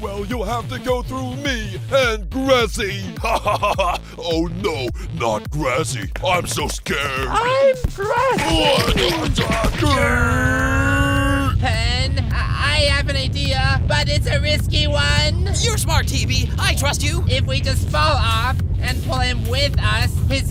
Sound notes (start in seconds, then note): 3.0 Eraser laughs; 9.8 Eraser screams